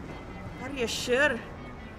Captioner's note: in a faux irish accent